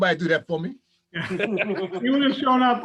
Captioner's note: chuckling